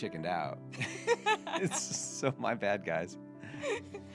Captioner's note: laughing